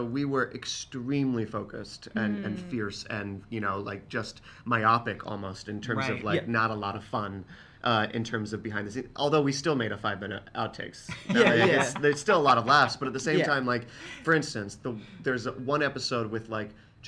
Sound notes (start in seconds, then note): 11.2 laughing